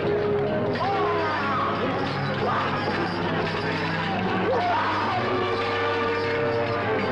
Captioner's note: chains rattling; grunting